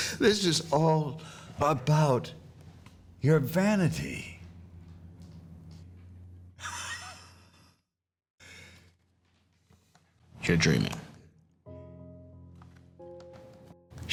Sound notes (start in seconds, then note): 6.6 chuckles; 11.6 slow tempo music